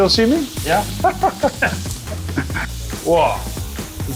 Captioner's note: laughing